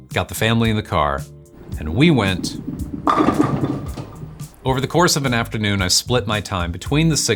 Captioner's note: bowling